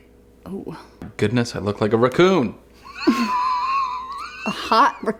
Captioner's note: laughs